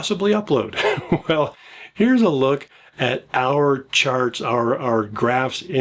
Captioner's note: laughs